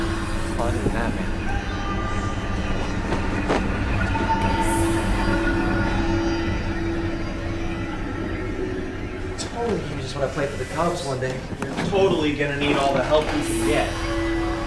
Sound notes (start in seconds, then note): 2.1 mysterious whispering